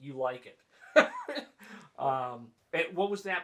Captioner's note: laughing